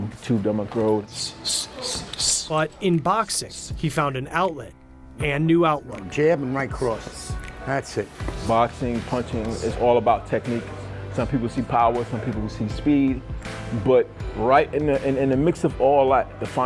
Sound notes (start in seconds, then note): 1.2 exhaling